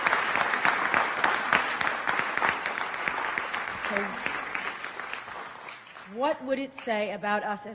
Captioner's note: applause